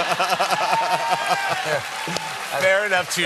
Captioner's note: laughter; applause